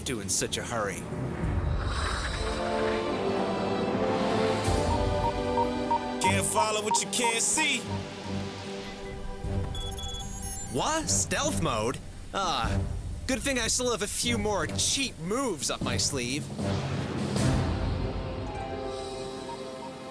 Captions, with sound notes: HMM. WHERE ARE YOU OFF TO IN SUCH A HURRY? (RADAR BEEPS) CAN'T FOLLOW WHAT YOU CAN'T SEE. (RADAR BEEPS) WHA? STEALTH MODE? AH... GOOD THING I STILL HAVE A FEW MORE "CHEAP MOVES" UP MY SLEEVE.